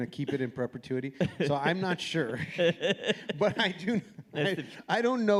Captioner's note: laughs